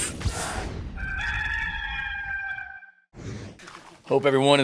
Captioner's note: rooster crowing